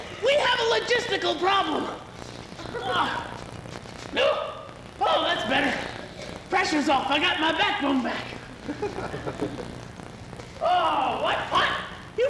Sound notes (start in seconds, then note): 3.0 groan